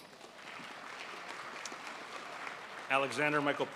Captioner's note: crowd applauds